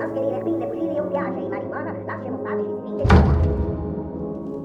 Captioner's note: door slams